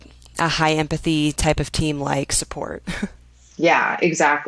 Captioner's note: laughs